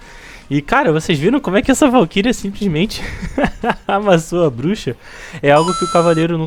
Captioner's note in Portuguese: risadas